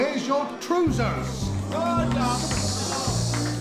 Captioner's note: booing